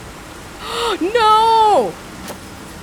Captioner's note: gasps